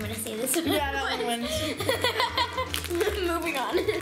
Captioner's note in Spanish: ríe